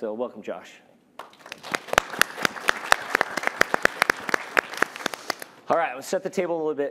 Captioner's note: applause